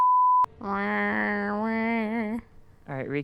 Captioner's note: imitating music